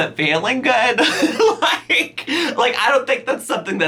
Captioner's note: laughs